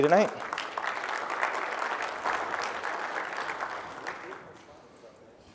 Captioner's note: applause